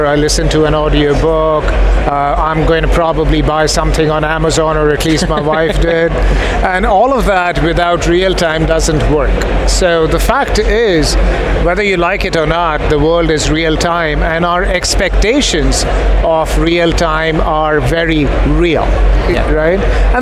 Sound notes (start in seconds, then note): 5.0 laughing